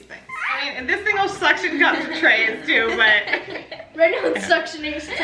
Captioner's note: laughs